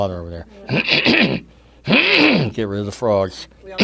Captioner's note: clears throat